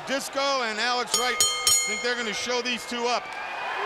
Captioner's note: bell ringing